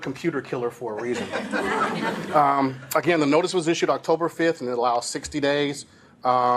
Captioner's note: laughing